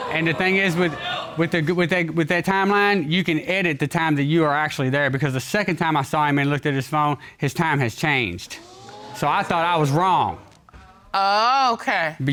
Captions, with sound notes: And the thing is, with that-- with that timeline, you can edit the time that you were actually there because the second time I saw him and looked at his phone, -his time has changed. -[audience exclaims] So, I thought I was wrong. Oh, okay.